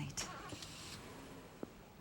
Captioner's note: car engine starts